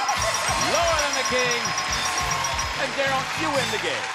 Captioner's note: theme music playing; applause